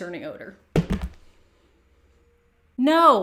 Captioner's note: phone dropping